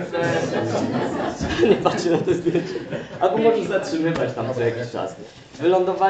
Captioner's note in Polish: śmiech